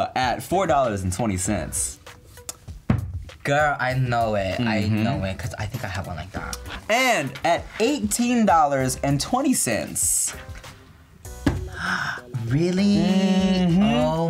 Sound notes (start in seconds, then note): 2.8 thud; 11.4 thud; 11.6 gasps